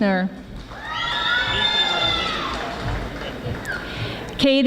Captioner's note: audience applauding